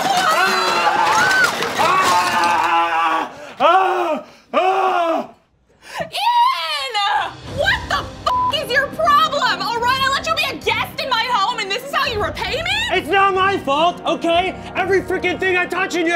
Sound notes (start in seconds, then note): 3.4 groans